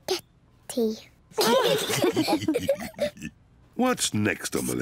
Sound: all laugh

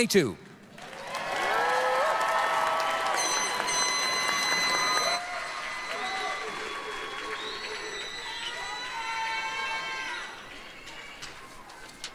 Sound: applause, cheering

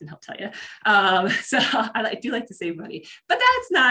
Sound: laughs

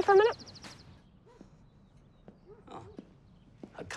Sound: dog barks in distance

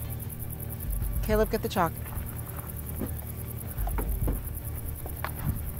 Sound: insects chirping

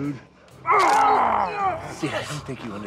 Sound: screams; bone cracks

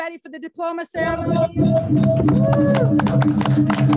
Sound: applause

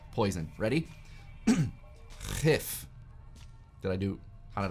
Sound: clears throat

